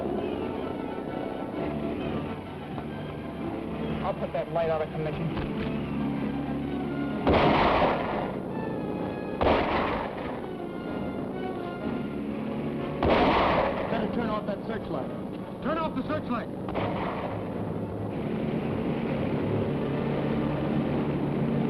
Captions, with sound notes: I'll put that light out of commission. (rifle firing) - Better turn off that searchlight. - Turn off the searchlight. (boats rumbling)